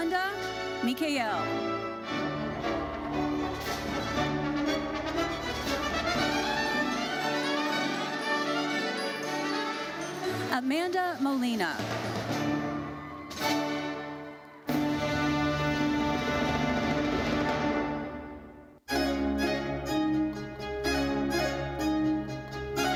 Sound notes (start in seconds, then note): 1.8 gentle uplifting music continues; 12.3 gentle uplifting music continues; 13.5 audience cheering; 19.4 lively uplifting music